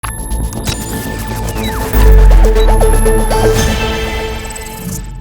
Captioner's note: high frequency electronic notes